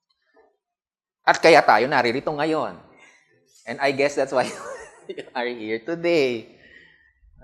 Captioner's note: chuckles